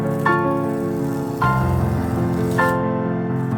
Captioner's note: peeling off masking tape sounds